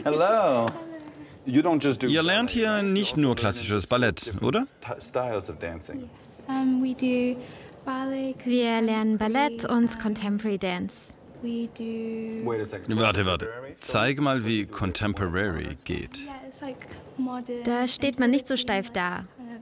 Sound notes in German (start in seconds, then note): 2.1 englisch